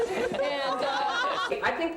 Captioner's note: laughter